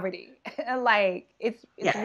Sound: chuckling

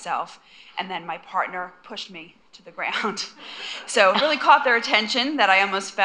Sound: laughter

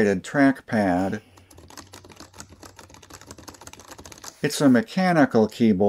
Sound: keyboard sounds

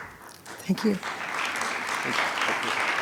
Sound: attendees clapping

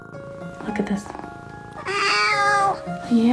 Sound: meowing

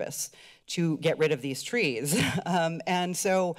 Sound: laughter

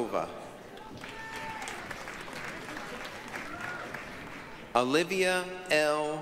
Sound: applause, cheering

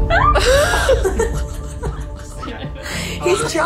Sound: giggling

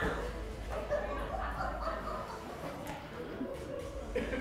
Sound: laughing

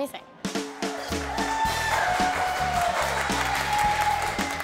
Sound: applause and Cheering

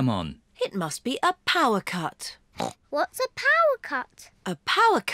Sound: grunts

